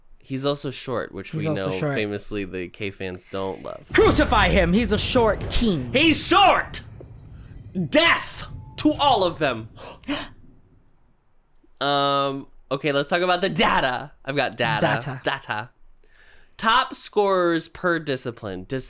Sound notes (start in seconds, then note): 3.8 dramatic drums; 9.9 gasp